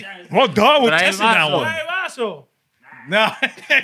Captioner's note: non-english Speech